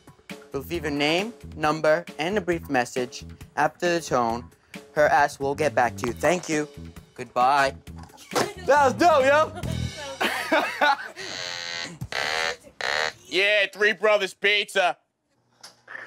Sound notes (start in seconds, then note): 10.2 Pauly laughing; 12.8 duck phone ringing